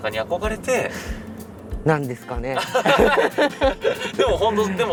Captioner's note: haha